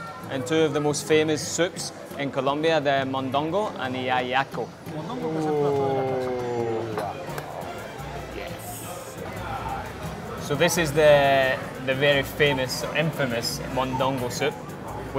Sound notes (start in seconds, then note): 5.0 server speaking in foreign language